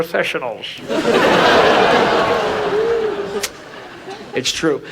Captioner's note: audience laughs